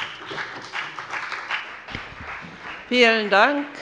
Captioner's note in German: Beifall bei der FDP